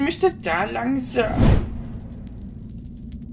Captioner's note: woosh